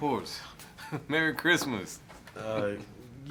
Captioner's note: chuckles